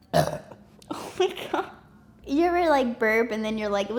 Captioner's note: burp